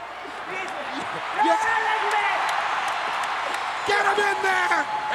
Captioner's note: crowd chattering